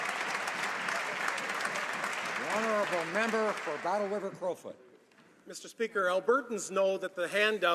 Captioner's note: applause